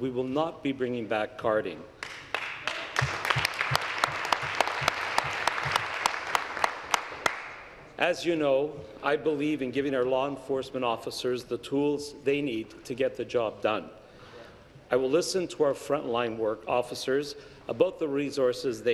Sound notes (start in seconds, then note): 6.2 applause